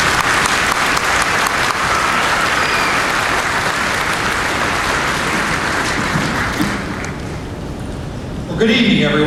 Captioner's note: applause